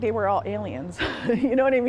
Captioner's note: laughter